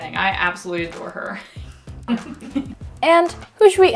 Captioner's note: laughs